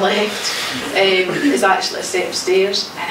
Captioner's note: laughing